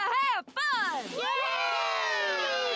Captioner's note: cheering